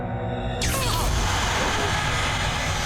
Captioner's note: screams